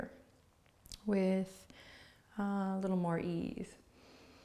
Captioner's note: inhales slowly